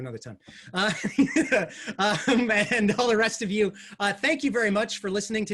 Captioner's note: laughs